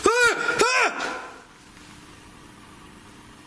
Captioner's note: yelling